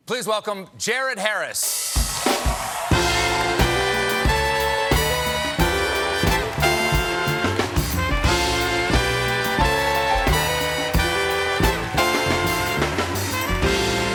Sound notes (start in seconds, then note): 2.1 applause; 13.9 cheers and applause